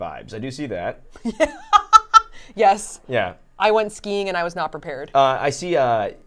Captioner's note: laughs